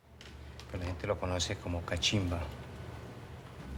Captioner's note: speaking spanish